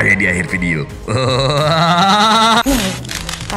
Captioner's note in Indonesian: ketawa starter